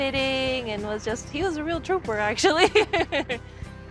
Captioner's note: laughing